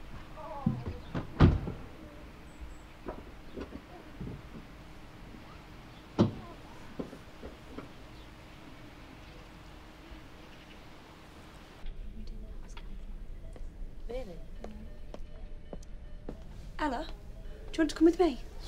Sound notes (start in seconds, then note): 6.6 heavy breathing; 11.8 indistinct chatter, machines beeping; 14.5 footsteps approaching